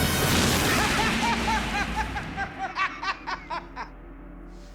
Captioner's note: joker laughing hysterically